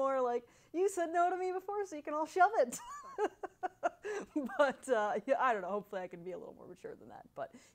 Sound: laughs

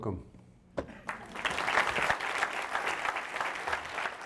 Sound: audience applauds

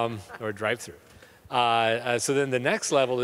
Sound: crowd snickers

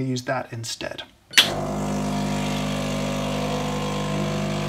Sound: coffee machine hums

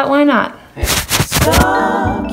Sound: rustling

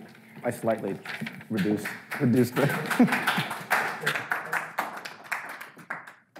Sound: audience lightly applauding

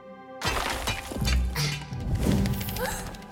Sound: squeaking; gasps

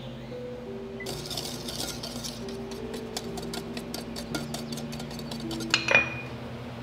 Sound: mixing sounds

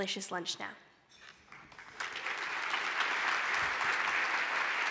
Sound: applause

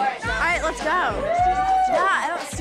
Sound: girls screaming

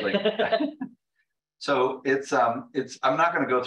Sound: laughter

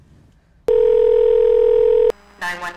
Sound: phone ringing

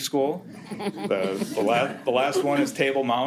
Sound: all chuckle

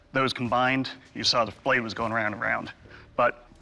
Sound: none

